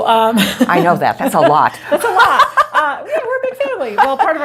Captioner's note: laughing